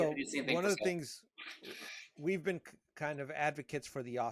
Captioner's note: murmuring